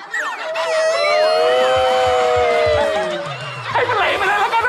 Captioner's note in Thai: เสียงร้อง